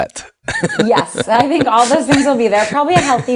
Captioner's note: laughter